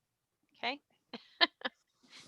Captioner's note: laughs